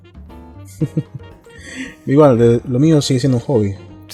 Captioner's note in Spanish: risas